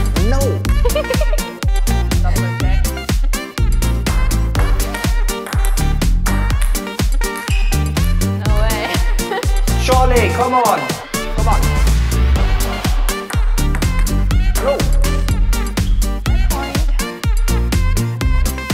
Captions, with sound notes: No! - (laughs loudly) No way (laughs loudly). - XOLAY, Come on!. Come on. No!